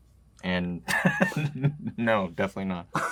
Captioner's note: laughs